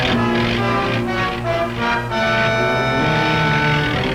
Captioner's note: car engine revving; dramatic music